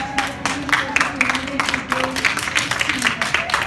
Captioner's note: applauds